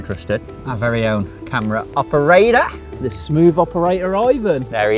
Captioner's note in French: Chuckle